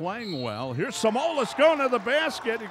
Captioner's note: whistle blows